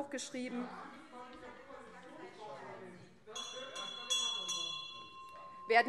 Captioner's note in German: Unruhe Freie Demokraten - Glockenzeichen